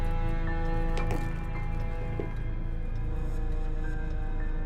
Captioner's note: door opens; slow, dramatic orchestral music